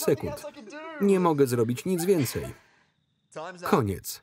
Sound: laughter

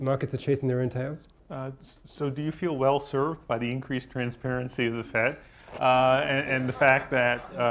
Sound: laughter

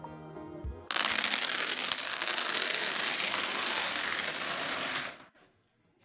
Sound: dominoes knocking over sound

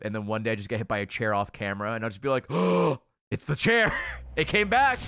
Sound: gasps

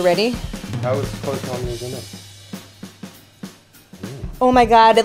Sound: bright jazz music; softly mumbling

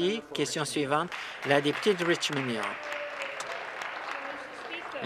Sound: applause

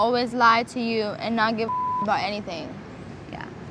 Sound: beep

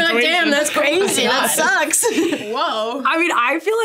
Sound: laughs

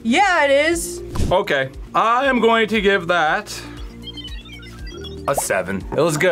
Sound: computer beeps

